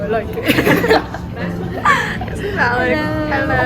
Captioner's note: laughing